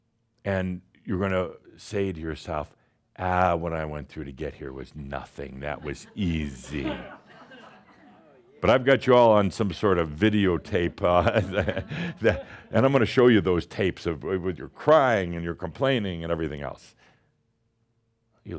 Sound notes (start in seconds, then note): 5.7 some chuckles; 10.5 chuckles